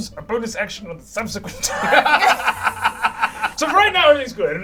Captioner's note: all laugh